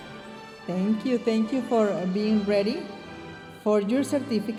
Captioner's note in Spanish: hablando en inglés